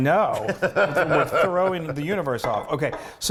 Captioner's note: laugh